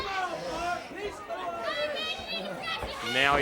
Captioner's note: crowd chatter